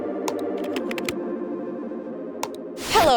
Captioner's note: keyboard clacking; mouse clicking; mouse clicks